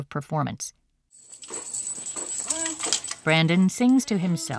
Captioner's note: clicking sound